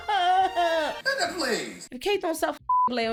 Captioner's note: crying; beep